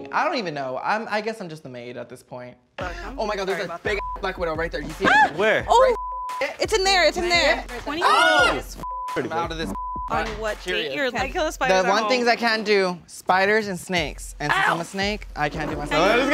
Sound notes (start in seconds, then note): 3.9 beep; 5.8 beep; 8.0 screaming; 8.8 beep; 10.1 all chattering